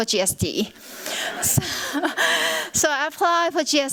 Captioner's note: laughter